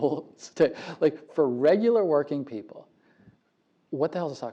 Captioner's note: laugh